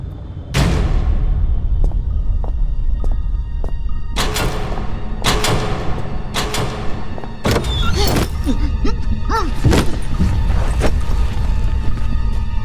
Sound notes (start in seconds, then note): 0.5 clang; 4.1 sequential clanking of switches; 7.4 creak of a door and sounds of struggle